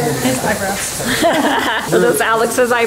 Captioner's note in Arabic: تضحك